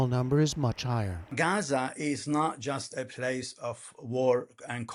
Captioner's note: through translator